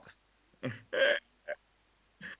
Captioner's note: laugh